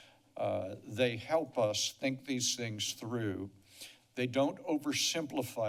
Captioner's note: none